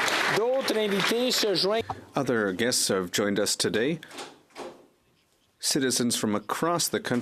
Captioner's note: applause